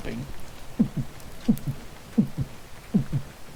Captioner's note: imitates heartbeat